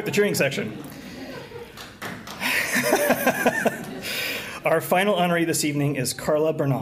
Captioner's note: laughter